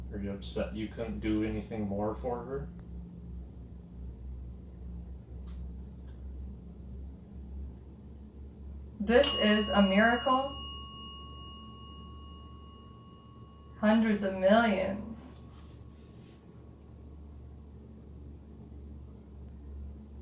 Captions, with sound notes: - Are you upset you couldn't do anything more for her? (bell dings) - This is a miracle. Hundreds of millions.